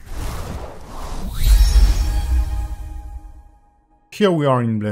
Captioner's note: logo whooshing